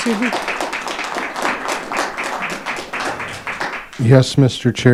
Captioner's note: audience applauding